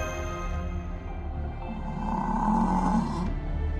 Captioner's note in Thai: กรรร